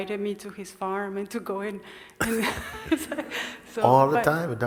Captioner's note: laughter